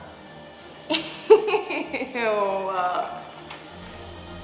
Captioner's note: disgusted giggle